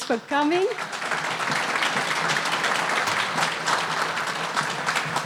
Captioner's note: audience applauding